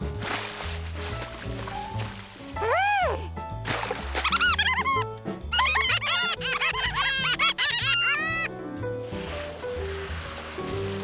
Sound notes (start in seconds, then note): 5.5 laughing